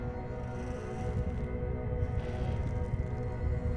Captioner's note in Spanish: Crujido